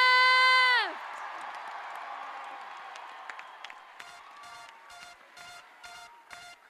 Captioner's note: clap